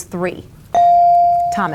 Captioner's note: bell dings